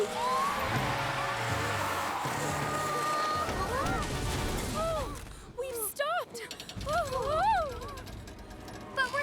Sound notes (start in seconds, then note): 0.0 tires Screeching; 3.1 all Screaming; 6.4 bus Creaking